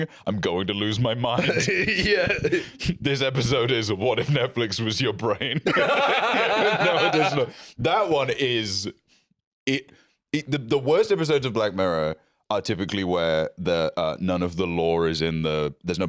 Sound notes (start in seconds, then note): 1.3 laughs; 5.5 both laugh